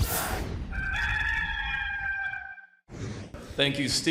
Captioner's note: air swooshing; rooster crowing; air swooshing